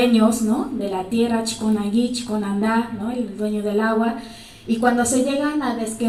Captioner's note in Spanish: habla en mazateco